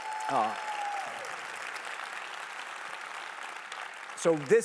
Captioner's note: applause